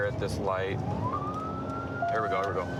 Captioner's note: sirens